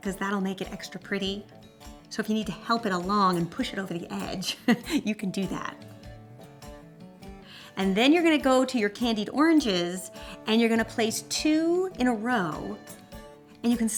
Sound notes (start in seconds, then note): 4.5 laughs